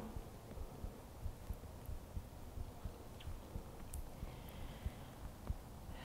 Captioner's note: inhaling and exhaling deeply